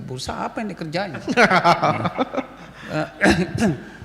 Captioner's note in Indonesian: tertawa